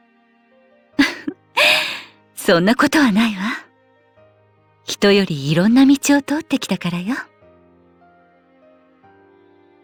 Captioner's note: laugh